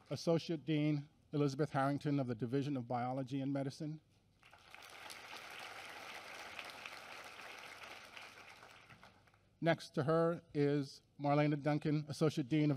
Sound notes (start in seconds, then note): 4.4 applause